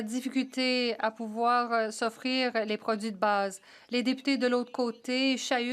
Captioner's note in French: voix de l'interprète